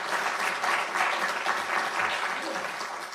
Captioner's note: applause